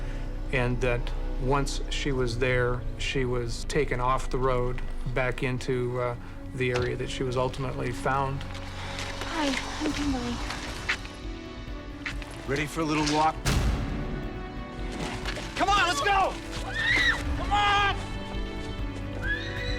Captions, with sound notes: And that once she was there, she was taken off the road back into the area that she was ultimately found. - Hi, I'm Kimberly. - Ready for a little walk? Come on, let's go. [screams] Come on.